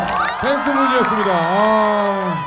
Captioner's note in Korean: 짝짝짝짝짝